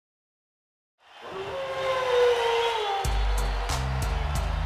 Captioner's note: crowd cheering; wolf howling; hiphop music